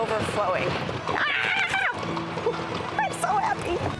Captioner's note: joyful screeching